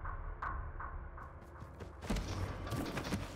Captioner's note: footsteps thudding; dramatic music